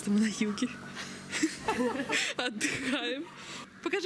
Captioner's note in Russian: смеются